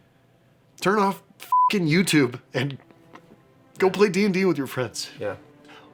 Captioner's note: beeping